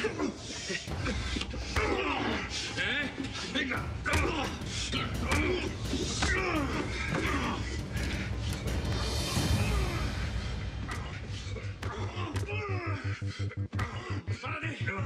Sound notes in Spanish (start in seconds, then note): 0.2 golpes; 0.2 quejidos; 4.7 golpes; 4.7 quejidos; 9.4 se escuchan golpes y quejidos